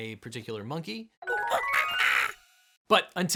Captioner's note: playful music; monkey squawking